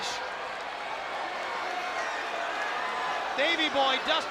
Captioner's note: spectators cheering